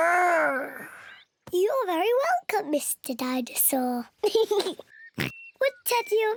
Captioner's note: giggles and oinks